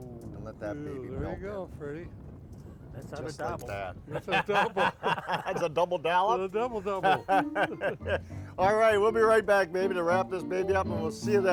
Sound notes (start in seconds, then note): 4.0 laughter